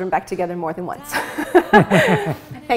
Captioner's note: laughs